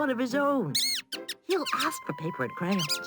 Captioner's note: mouse squeaking